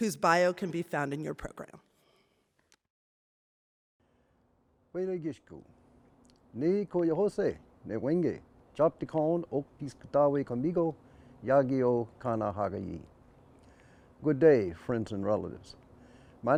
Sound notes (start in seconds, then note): 6.1 indiginous language